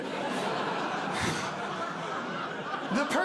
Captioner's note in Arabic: ضحك